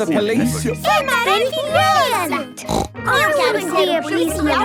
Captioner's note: snort